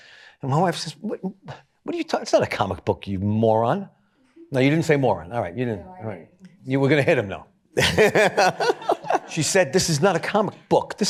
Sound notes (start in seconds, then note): 7.8 laughter